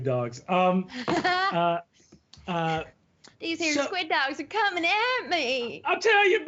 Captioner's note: laughs